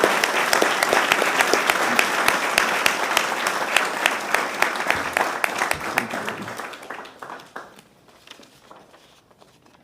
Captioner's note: applause